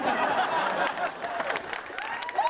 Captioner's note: audience laughing